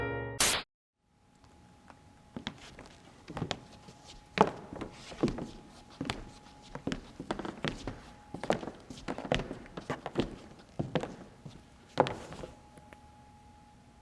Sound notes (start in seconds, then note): 3.1 creaking floors